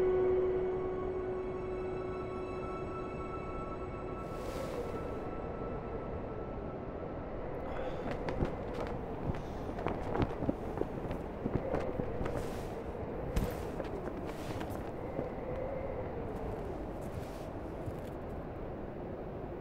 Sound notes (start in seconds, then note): 0.0 slow orchestral music; 7.7 wind howling and flag flapping